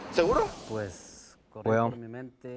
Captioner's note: speaking spanish